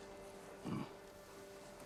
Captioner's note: grunt